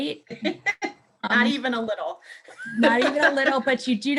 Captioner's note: laughs